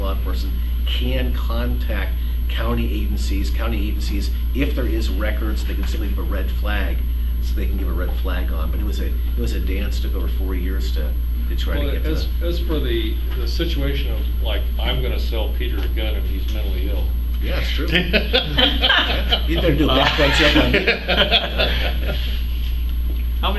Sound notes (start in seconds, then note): 17.8 laughter; 22.3 continued Laughter